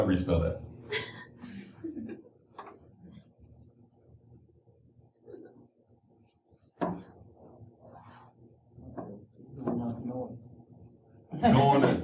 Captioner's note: laughter